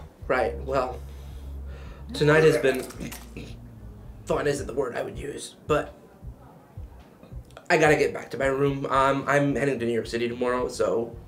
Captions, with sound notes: - Right. Well, tonight is the... (Sebastian puking) Throwing isn't the word I would use, but, I gotta get back to my room. Um, I'm heading to New York city tomorrow, so.